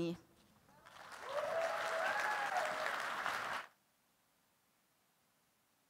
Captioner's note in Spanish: aplausos